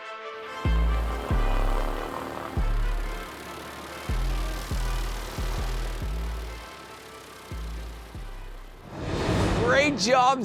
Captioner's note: upbeat electronic music; plane propellers whirring; upbeat electronic music